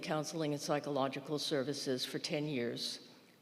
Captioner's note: none